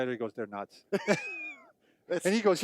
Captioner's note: both chuckle